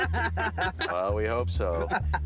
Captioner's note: laughing